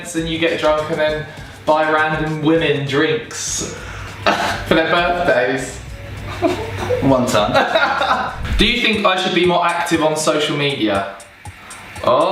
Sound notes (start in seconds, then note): 7.9 laughing